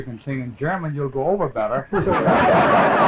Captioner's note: laughter